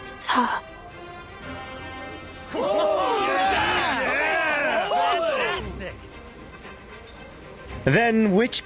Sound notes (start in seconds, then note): 2.5 cheering